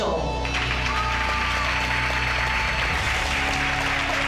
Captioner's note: cheering